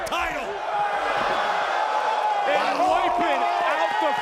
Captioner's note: audience cheering